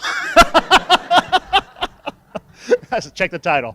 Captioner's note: laughing